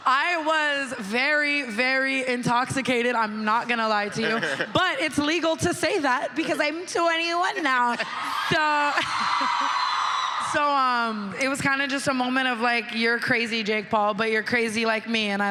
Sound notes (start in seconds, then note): 4.0 laughs; 7.8 crowd cheering